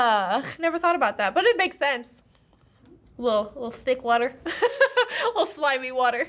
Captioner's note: laughs